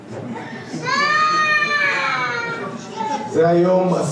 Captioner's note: cheering